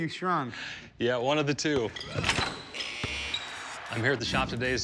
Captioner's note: shoes squeaking, basketball buzzer blares